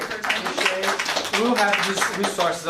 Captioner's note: applauding